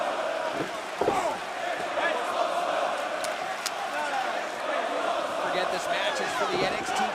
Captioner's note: crowd chatter